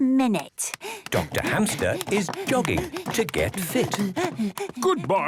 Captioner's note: panting